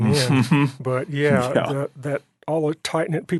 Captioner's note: laughing